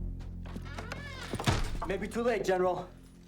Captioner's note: door creaks and thuds